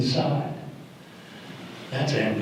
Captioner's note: audience gasp